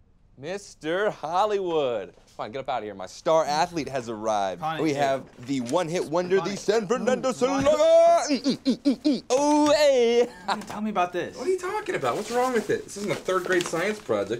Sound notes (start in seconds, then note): 6.8 mimicking punching noises